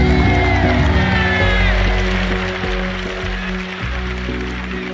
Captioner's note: cheers and applause